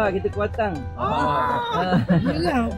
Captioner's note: laugh